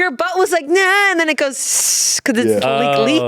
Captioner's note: hissing